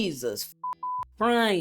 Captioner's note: beep